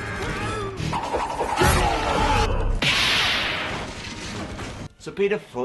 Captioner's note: Mortal Kombat sound effects